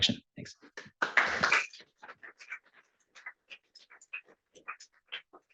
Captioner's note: applause